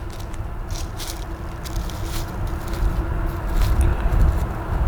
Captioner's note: leaves crumpling